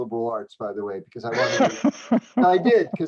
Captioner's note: laughter